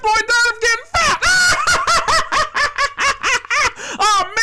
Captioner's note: laughing hysterically